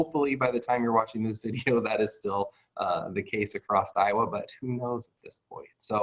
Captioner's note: chuckles